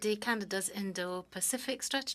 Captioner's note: speaking French